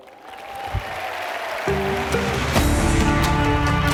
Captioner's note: applause